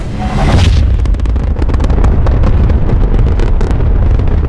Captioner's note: rocket ignites